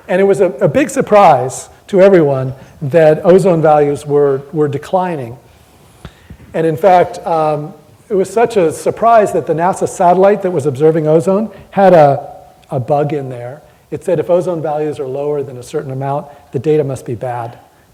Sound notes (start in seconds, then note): none